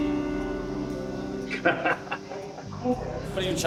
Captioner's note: laughs